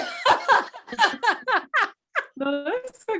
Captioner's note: all laugh